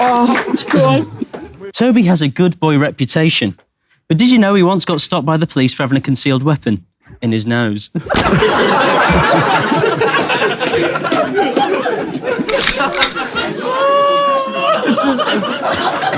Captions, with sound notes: - Aw, God. - Tobi has a good boy reputation, but did you know he once got stopped by the police for having a concealed weapon in his nose? [people in room laughing] [gun cocking noise]